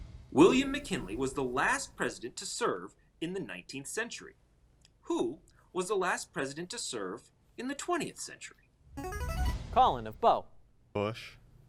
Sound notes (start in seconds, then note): 8.8 ringing